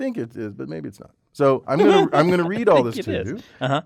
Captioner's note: laugh